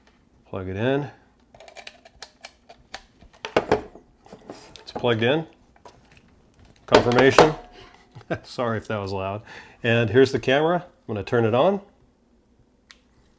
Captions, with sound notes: Plug it in. It's plugged in. Confirmation. (giggles) Sorry if that was loud. And here's the camera. Gonna turn it on,